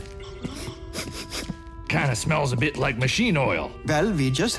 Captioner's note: sniffs air